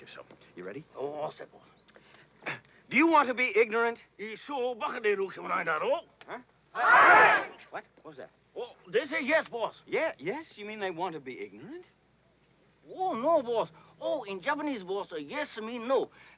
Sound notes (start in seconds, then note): 2.4 clears throat; 4.3 speaking Japanese